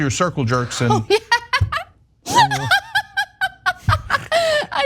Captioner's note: laugh